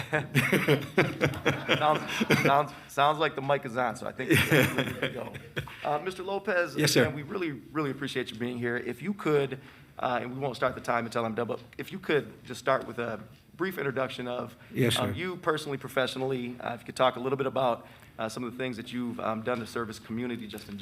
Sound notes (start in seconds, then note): 0.0 laughs; 4.2 laughs